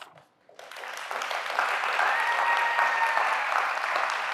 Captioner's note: applause